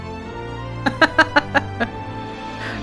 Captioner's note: laughs